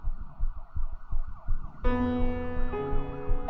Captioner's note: rapid heart beats